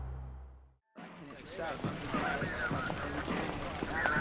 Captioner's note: indistinct chatter